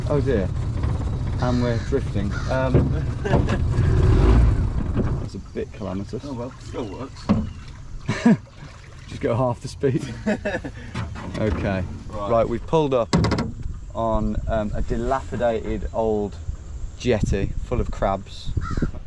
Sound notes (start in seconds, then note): 9.9 laughs